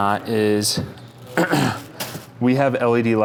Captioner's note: clears throat